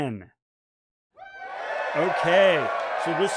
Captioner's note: cheering